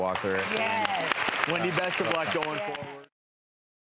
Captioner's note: applause